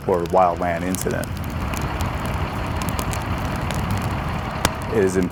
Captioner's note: flames crackling; engine idling